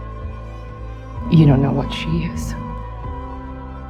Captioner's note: voiceover